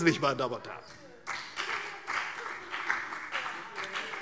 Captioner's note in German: Beifall CDU und BÜNDNIS 90/DIE GRÜNEN